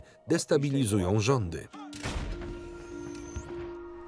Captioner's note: weapon fires